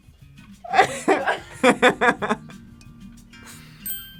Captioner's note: laughs